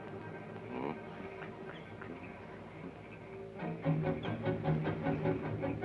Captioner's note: Joshua hums melodically